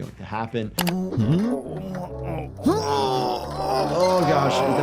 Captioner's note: Spendid grunting